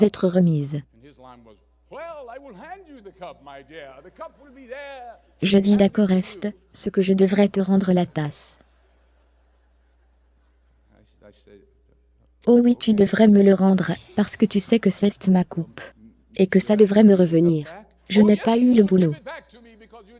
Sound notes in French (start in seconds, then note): 3.9 audience riant; 13.5 rires